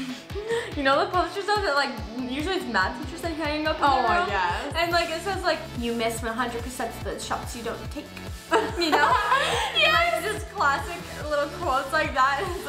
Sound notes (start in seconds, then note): 8.5 laughs